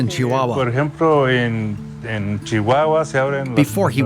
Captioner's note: speaking in foreign language